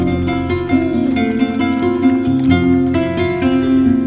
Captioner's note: birds chirping